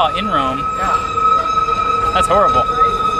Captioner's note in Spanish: sonido de tono alto